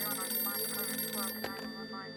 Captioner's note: phone beeping